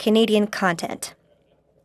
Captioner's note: speaking French